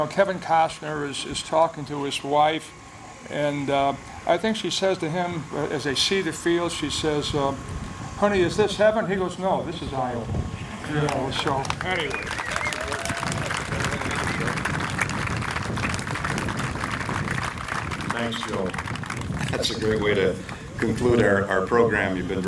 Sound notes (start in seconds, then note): 12.3 applause